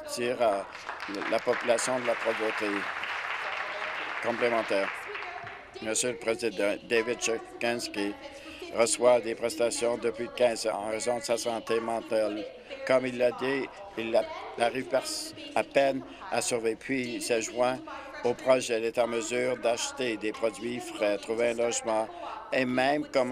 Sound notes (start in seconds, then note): 4.6 applause